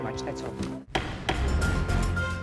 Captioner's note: gavel banging; upbeat music